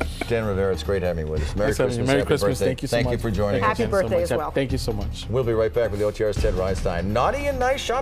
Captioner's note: laughter